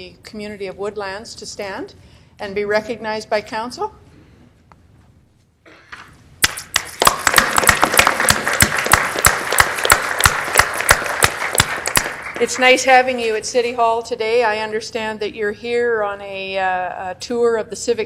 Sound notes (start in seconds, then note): 6.4 applause